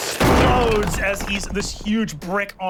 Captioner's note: explosion sound